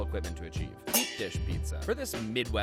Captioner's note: metal clangs